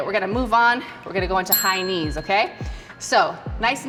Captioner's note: bell rings